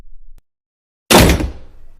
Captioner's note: door Closing